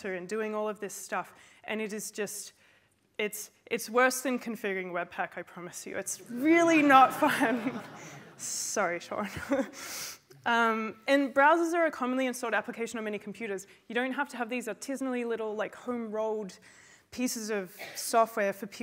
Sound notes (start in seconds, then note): 7.0 laughter; 10.0 laughs